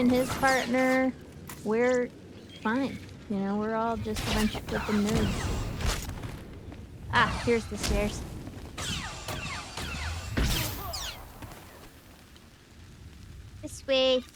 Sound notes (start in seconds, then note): 8.7 gunfire